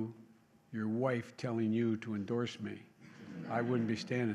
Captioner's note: laughter